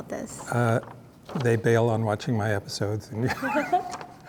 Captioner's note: laughs